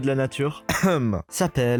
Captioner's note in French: tousse